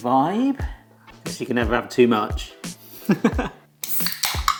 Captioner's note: laughs; ring pull clicks